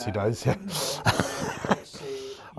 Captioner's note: laughing